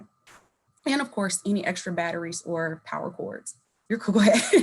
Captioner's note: laughing